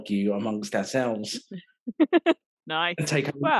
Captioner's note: laughing